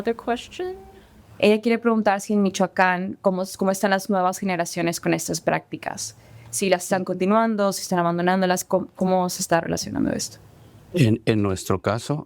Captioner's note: translator and speaking spanish